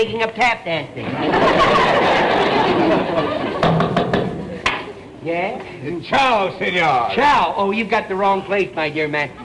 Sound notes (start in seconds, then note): 1.0 audience laughter; 3.6 knocking continues